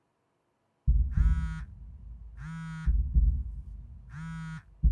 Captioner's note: phone vibrating